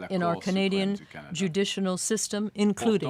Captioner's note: speaking French